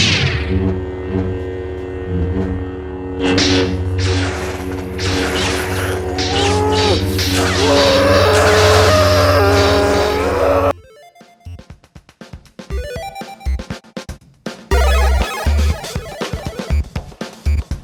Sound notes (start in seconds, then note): 1.9 lightsabers clash; 6.0 screams